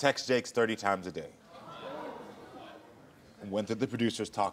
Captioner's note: audience groans